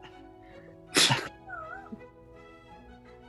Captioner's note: chuckles